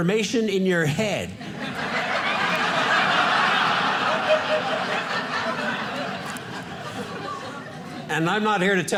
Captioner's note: audience laughing